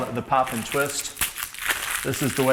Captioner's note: plastic crinkles